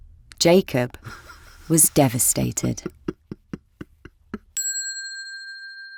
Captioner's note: Jacob crying; bell dinging